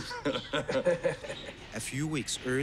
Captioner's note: laughs